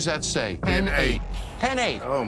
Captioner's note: in Unison